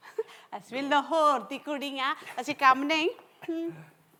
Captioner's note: in Punjabi